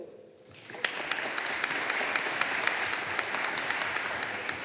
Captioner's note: audience applauding